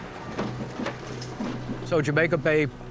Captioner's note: truck beeping; garbage rattling